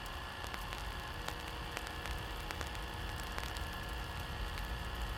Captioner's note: fire crackling